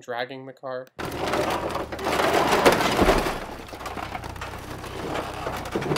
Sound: metallic rattling and crunching

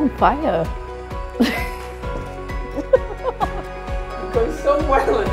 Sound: laughing

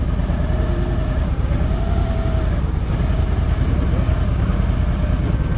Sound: motorcycle engine rumbling

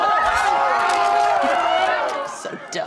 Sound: screaming

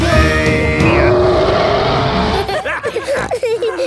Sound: roaring; laughter; snorting

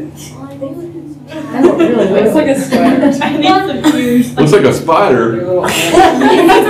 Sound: laughter

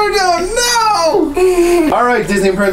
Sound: little girl laughs

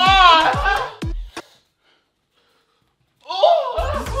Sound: music cuts

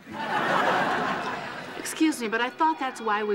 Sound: audience laughing

